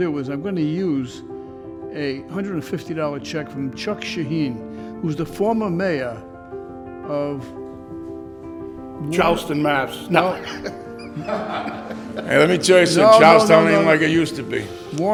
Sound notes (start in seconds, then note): 10.2 laughing